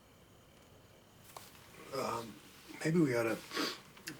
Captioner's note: sniffles